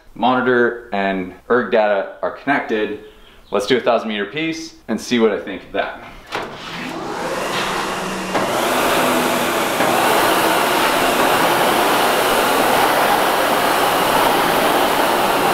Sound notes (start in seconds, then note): 7.2 SkiErg machine runs